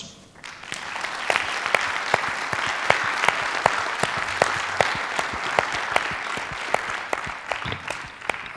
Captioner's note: applause